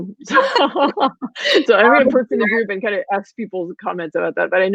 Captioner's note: laughter